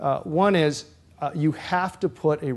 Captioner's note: none